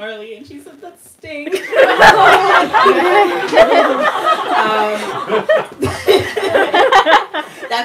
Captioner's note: laughter